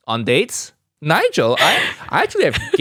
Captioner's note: laughs